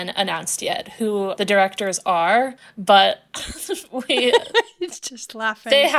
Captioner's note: laughing